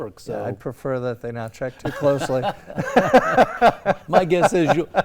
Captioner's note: laugh